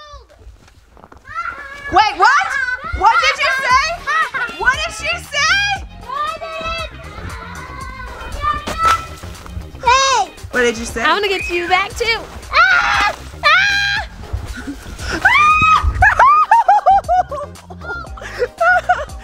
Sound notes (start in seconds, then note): 1.2 children laughing; 11.1 yells